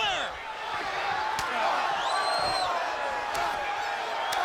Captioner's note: fists thudding